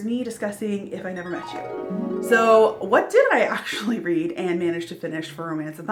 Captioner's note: dream sounds